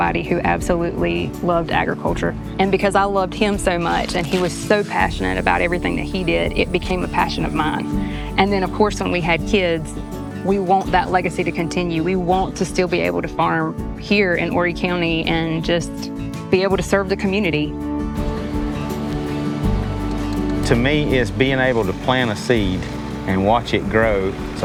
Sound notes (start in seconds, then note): 18.6 gentle music; 18.6 machine whirring